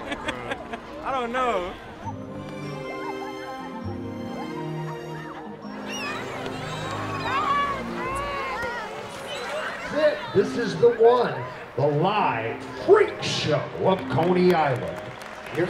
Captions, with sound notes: [interviewee giggles] I don't know. [dreamy music] [waves gently crashing] - This is the one, the live Freak Show of Coney Island.